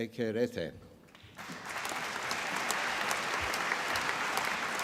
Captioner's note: applause